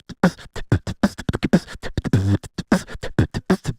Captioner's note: beatboxing